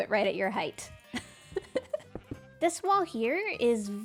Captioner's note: laughs